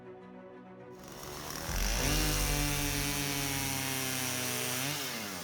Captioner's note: electric sawing